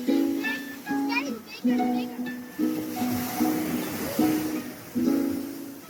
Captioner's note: children talking in background